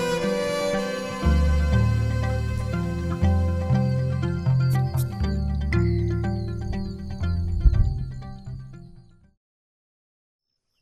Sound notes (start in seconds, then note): 3.9 frogs calling; 6.9 thunder